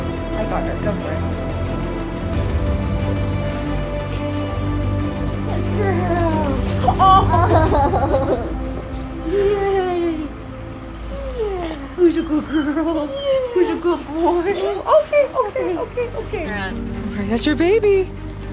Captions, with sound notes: I got her, just do it. Good girl. Oh. [Laughter] Yay. Yeah. Who's a good girl? Who's a good boy? [Squeal] Okay, okay, okay, okay. That's your baby.